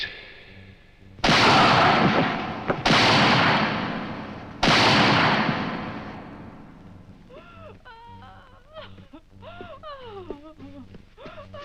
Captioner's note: gun Shots